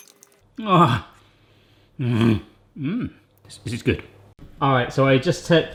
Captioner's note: grunts